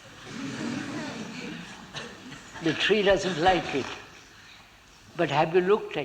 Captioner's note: laughter